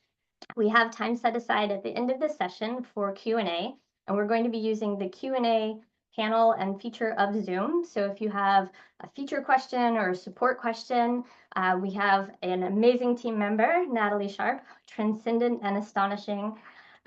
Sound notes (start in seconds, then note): none